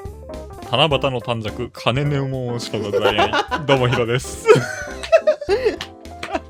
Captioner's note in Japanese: 笑い